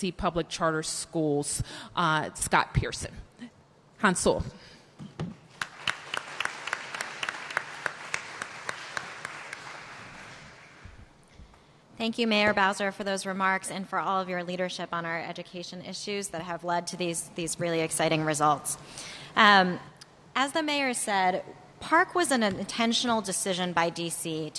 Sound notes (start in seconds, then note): 5.5 applause